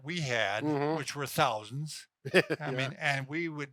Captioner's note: laughs